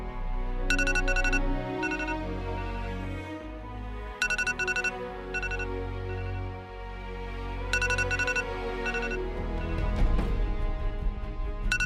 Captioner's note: alarm sound